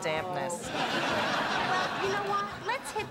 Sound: laughter

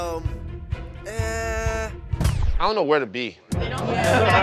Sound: laughter

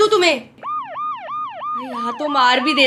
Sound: police sirens

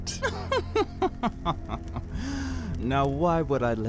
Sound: chuckles

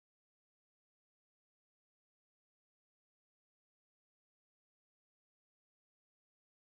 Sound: none

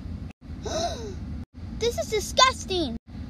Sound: gasp!

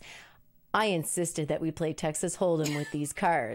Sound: laughs

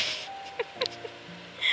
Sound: snickers

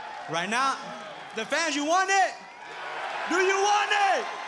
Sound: cheering

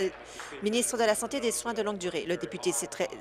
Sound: applause

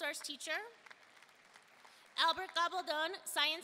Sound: audience applauding

